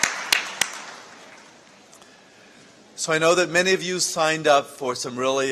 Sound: applause

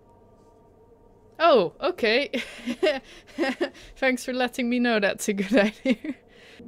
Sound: laughs

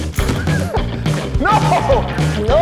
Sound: laughs loudly

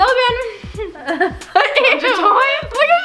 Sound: laughs

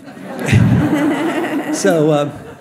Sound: audience laughs

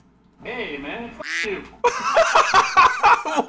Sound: both laughs; duck quacks; laughs

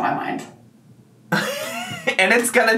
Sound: laughs

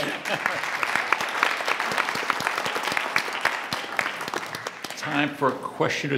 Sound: audience applauds

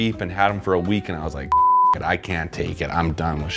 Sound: beep

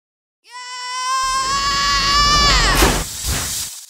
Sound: scream

